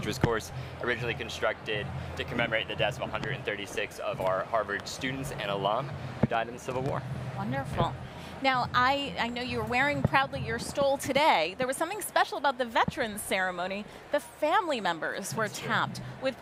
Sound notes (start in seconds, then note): none